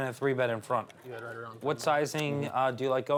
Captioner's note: mumbling